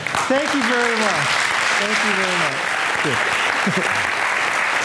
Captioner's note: audience applauding